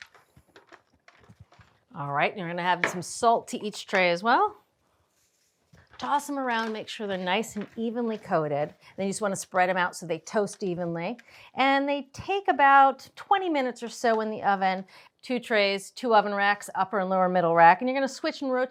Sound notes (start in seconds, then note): none